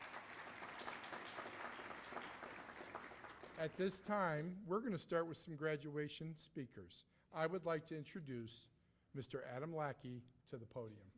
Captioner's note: applause